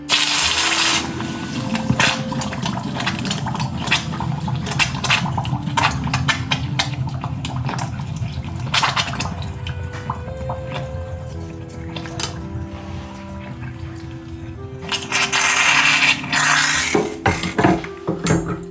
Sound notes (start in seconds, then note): 0.0 laughs; 0.9 liquid bubbling; 4.0 gentle music; 15.3 liquid gurgling